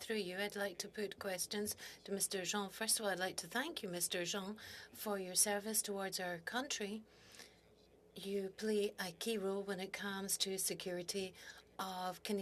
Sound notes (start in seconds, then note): 3.7 speaking French